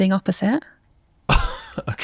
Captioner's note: chuckles